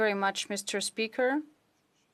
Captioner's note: speaking French